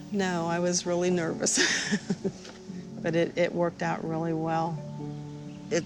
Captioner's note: laughs